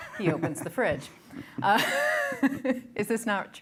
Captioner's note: chuckling